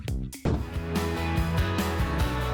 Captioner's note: upbeat music; logo swooshing